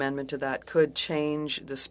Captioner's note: speaking French